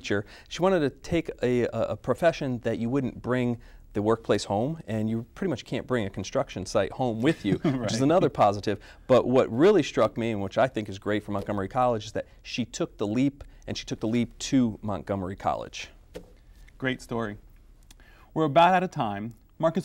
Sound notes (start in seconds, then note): 7.3 laughter